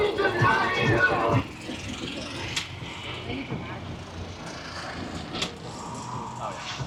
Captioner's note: tourists chattering indistinctly